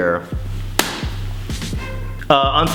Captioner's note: clap